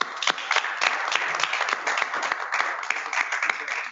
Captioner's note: applause